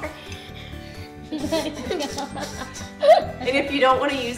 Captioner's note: laughter